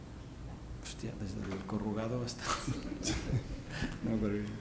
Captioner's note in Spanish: risas